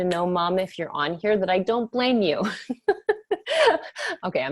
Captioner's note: laughs